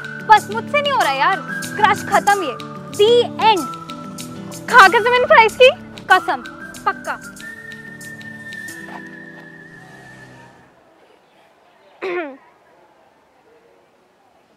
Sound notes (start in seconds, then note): 12.0 clears throat